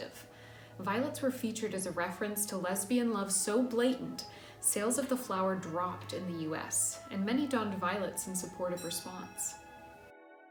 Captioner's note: clock chimes